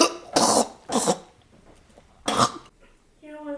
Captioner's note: Michael gagging on blood